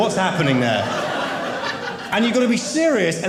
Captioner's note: audience laughing